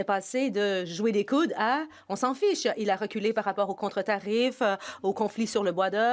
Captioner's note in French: voix de l'interprète